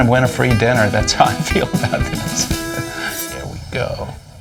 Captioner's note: laughs